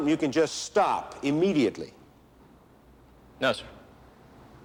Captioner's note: none